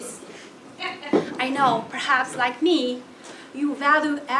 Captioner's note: laugh